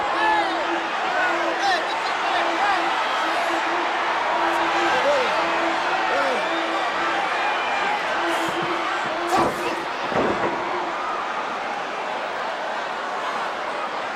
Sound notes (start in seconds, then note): 0.4 crowd cheering; 10.7 body thuds